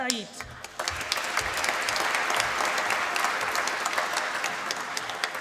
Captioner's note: applause